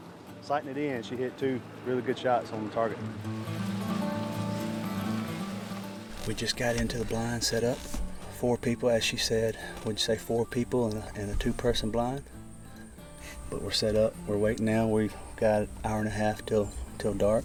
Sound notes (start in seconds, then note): 3.9 upbeat music plays; 7.5 talks softly